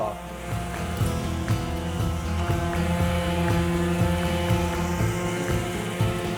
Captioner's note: sander whirring; upbeat music